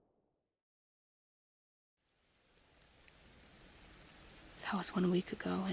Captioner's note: rain